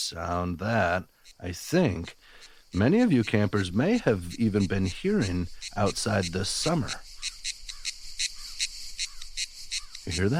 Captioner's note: cue cicada sound